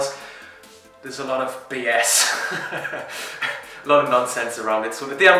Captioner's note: laughing